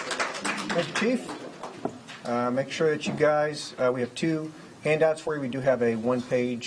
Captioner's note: applause